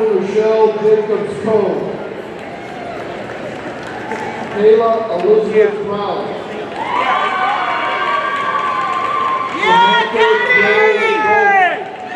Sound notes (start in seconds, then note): 2.7 audience applauding; 6.7 audience cheering